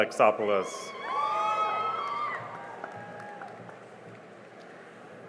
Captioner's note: cheering and applause